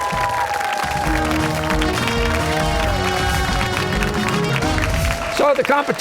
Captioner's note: cheers and applause